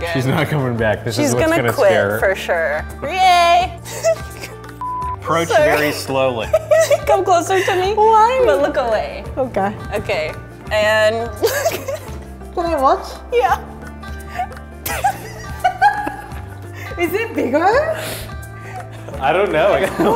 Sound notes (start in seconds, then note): 3.8 laughing; 4.8 beep; 11.4 laughing; 14.8 all laughing